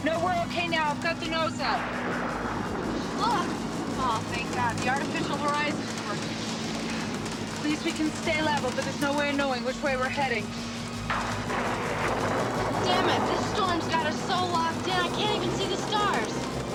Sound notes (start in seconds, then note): 11.0 thunder crashing